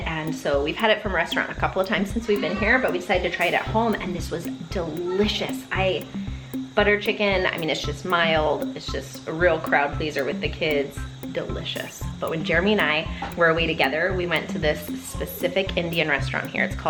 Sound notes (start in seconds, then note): none